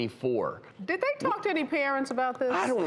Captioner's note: laughs